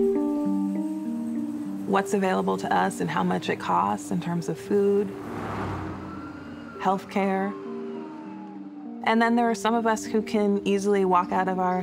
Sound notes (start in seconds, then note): 4.9 siren